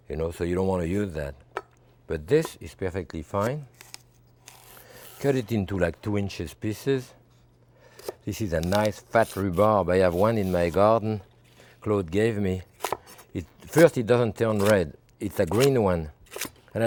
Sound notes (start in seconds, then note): none